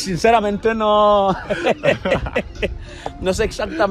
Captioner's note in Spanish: risas